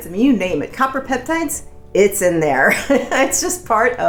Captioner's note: laughing